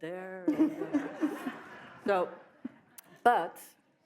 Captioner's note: audience laughs